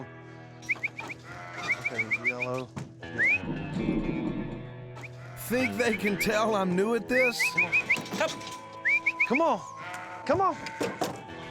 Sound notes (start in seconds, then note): 0.2 whistling; 7.1 whistling